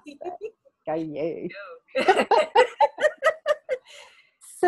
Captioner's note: laughing